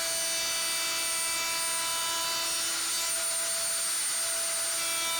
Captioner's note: router humming